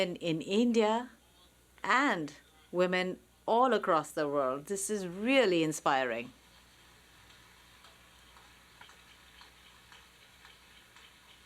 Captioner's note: applause